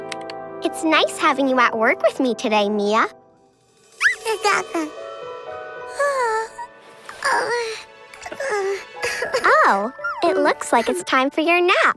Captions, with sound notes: It's nice having you at work with me today, Mia. [babbling] [yawning] Oh, it looks like it's time for your nap.